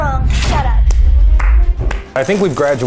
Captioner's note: hands clapping